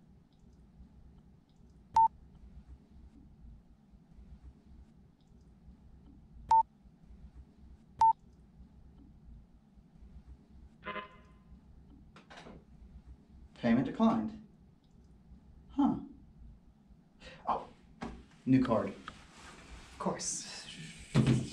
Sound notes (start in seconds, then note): 0.2 beep; 10.8 error noise